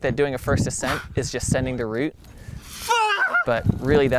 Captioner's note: screams